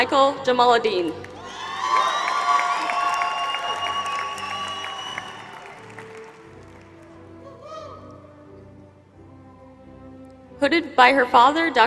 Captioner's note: applause